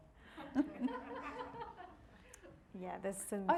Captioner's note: audience laughing